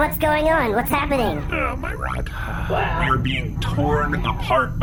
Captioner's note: Nermut and Bargie sigh